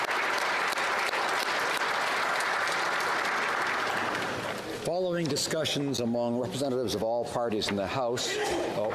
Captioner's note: applause